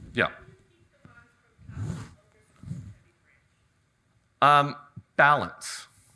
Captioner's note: audience member chatters